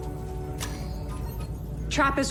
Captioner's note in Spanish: pitido